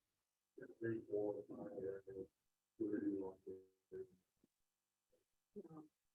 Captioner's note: group muffled chattering